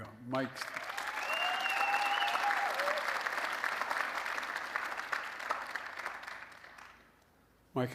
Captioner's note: applause